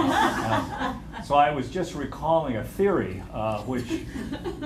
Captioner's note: laughter